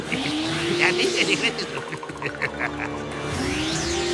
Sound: laughing

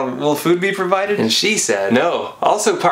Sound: non-chalantly

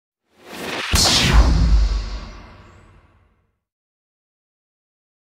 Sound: intro WHOOSH!!

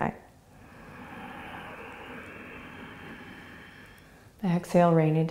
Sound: inhaling

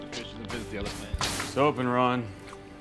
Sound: knocking

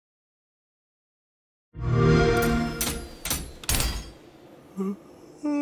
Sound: Chai yawns

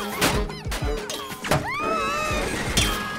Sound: screaming

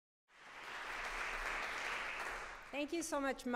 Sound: applause

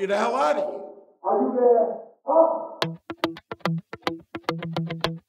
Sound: talking

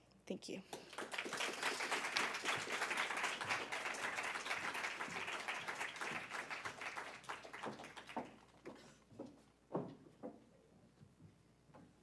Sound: applause

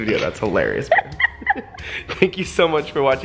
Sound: laughs

